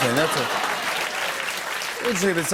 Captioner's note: applause